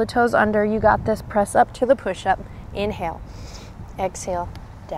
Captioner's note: takes deep breath